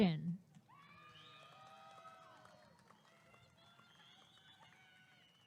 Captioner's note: applause and cheering